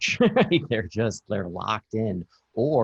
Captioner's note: laughs